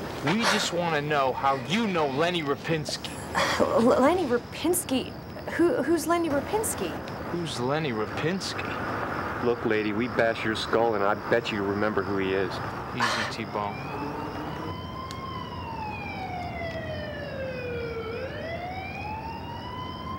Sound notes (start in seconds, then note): 14.6 sirens ringing